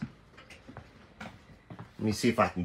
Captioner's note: light footsteps